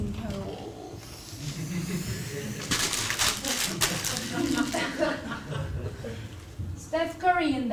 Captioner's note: laugh